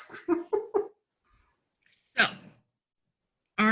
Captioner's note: giggles